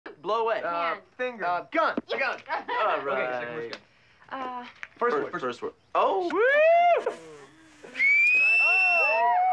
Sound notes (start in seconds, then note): 7.8 whistling; 7.9 all cheering